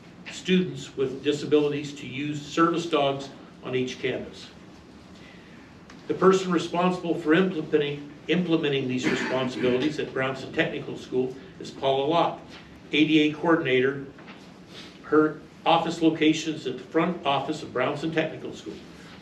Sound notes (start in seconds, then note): 9.0 male audience member clears throat